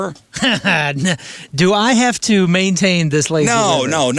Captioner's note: laughing